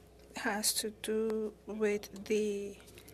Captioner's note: speaking french